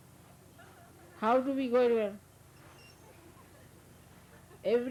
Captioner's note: laughter; laughter